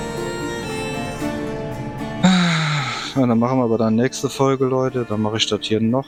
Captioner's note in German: seufzt